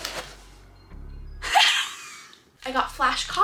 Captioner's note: laughs